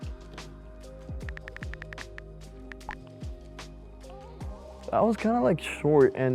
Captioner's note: chill music; typing sounds